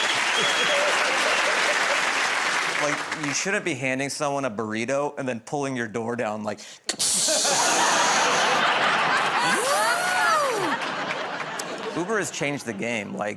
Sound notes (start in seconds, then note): 6.9 imitates air hissing, door whirring